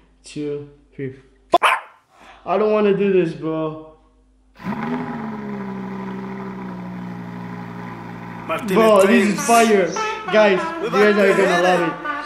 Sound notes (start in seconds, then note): 1.5 bark; 4.6 revving